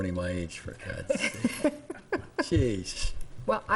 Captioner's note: laughing